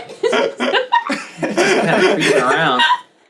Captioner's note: all laughing